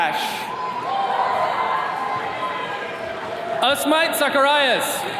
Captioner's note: attendees cheering